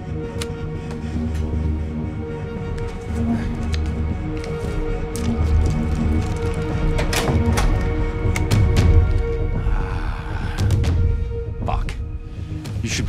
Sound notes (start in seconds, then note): 0.1 flash drive clicks; 2.0 foreboding music; 6.0 door clicks; 6.1 wrapper crinkles